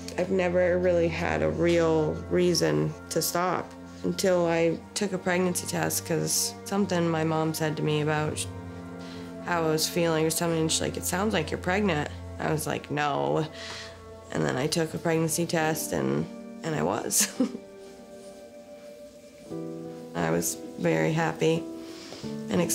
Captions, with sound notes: I've never really had a real reason to stop until I took a pregnancy test 'cause something my mom said to me about how I was feeling or something. She's like, it sounds like you're pregnant. I was like, no. And then I took a pregnancy test, and I was. (giggling) I was very happy and excited,